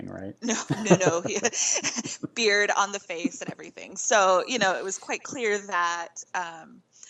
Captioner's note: laughing